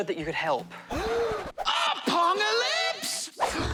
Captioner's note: gasps; both gasp